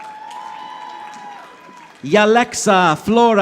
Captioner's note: audience applauding